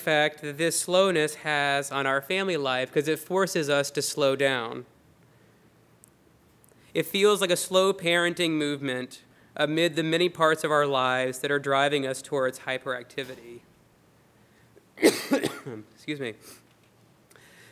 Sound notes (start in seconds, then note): 14.9 coughs